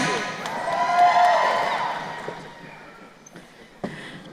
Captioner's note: crowd cheering